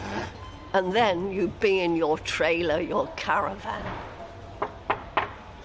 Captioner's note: knock on the door